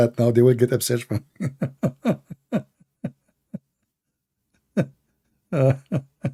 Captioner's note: Ketawa